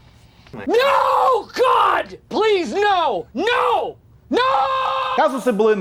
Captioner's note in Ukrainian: Кричить: Ні, ні, нііііі